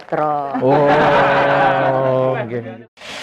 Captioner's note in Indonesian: ketawa